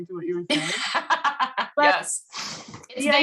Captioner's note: laughs